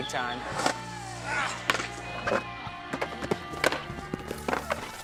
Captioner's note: grunting